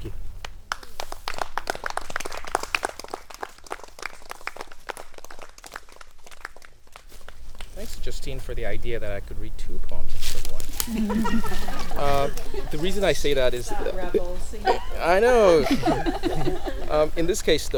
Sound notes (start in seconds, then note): 10.8 group laughing; 16.4 sighs deeply